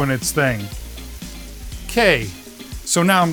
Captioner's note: food sizzling